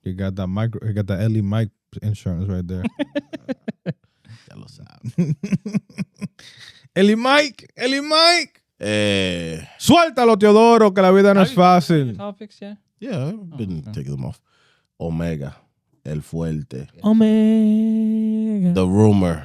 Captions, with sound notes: He got that Ellie Mike insurance right there. (Laughing) (Speaking In Foreign Language) Yeah, didn't take them off. Omega, El Fuente. Omega. The rumor.